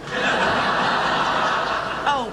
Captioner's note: laughing